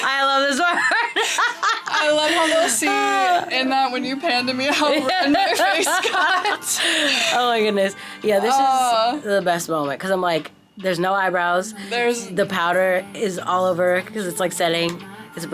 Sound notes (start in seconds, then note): 0.0 laughing; 6.4 both laughing